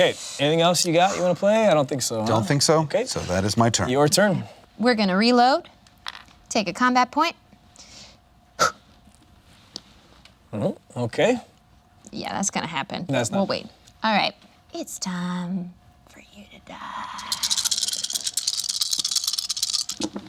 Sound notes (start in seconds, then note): 8.6 blows; 17.1 dice rattling